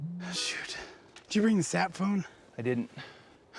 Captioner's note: phone ringing